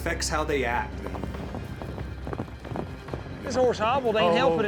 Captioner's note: hoofbeats